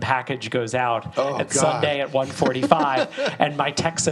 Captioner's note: laughs